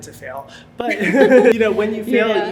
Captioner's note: laugh